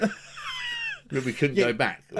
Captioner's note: laughs